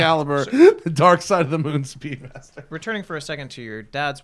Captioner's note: laughter